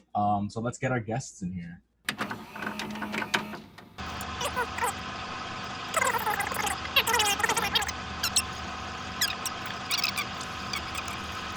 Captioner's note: recoil noise